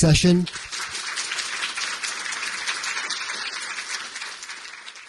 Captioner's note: audience applauding